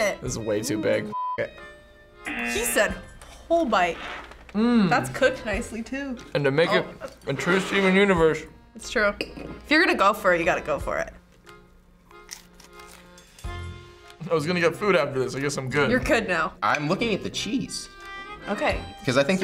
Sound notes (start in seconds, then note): 2.2 buzzer rings